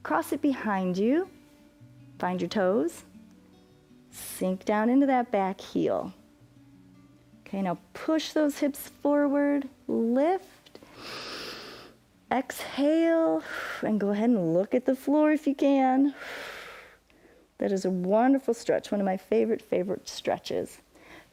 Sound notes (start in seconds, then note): 10.8 inhales; 16.1 exhales